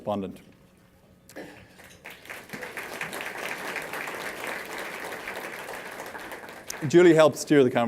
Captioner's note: applause